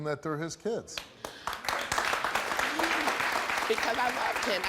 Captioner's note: audience applauds